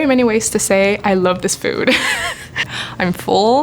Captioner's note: laughing